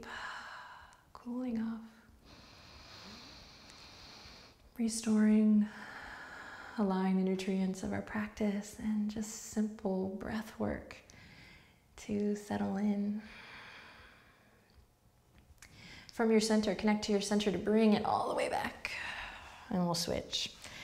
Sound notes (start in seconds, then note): 0.1 soft exhale; 2.2 inhales; 5.8 exhales; 13.1 exhales